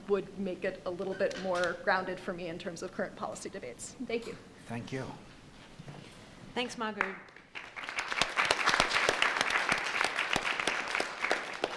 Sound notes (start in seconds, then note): 6.9 audience clapping